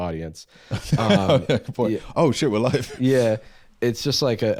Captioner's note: laughs